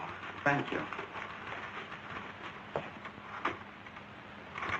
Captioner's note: typewriter clacking